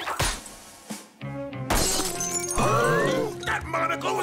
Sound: shattering, gasping

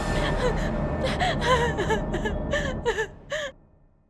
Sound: crying

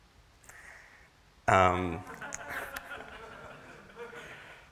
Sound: laughter

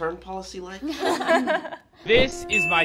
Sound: laughing

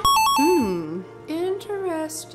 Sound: video game chimes

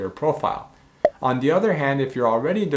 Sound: bubble popping

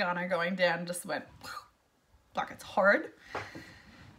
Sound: exhales

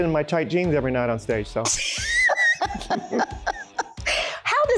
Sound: laughs

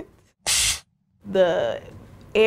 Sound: machine blasting air

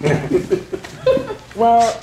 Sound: audience laughing

